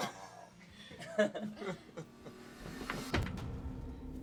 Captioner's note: laughing; soft dramatic music